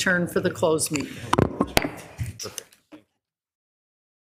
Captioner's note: gavel knocks